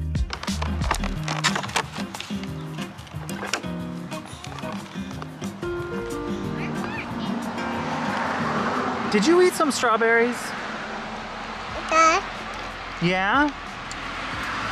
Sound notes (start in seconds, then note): 0.2 plastic packaging rustling around; 7.0 cars driving; 11.7 baby babbling